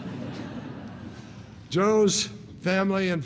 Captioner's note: laughter